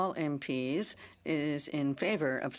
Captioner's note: speaking French